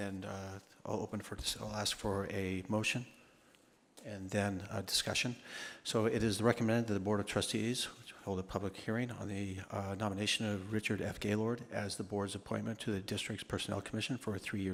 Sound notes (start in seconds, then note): none